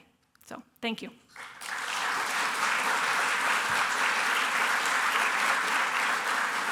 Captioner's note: applause